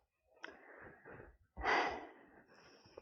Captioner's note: sigh